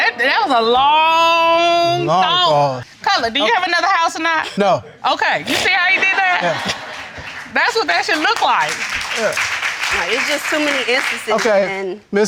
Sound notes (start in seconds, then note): 5.8 all laughing